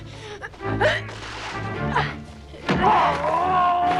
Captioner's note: Hundra grunts; Torente shouting